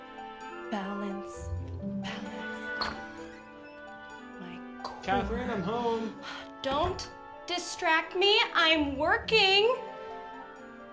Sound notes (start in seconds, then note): 2.7 door squeaking